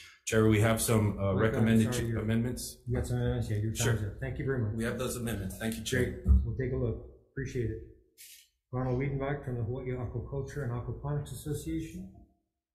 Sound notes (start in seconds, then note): 3.5 faintly speaking